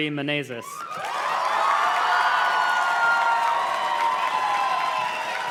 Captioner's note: audience cheers and claps